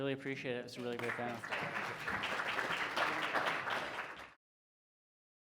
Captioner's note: audience applauding